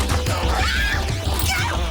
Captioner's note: energetic rock music; Jodie screaming